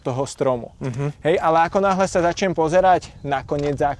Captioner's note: laughs